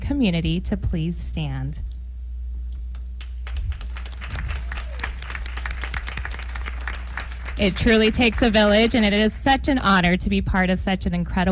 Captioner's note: applause